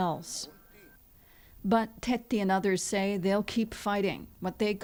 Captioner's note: speaking alternate language